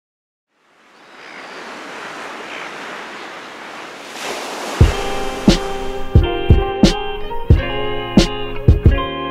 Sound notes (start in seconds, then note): 0.6 water crashing; 4.8 gentle music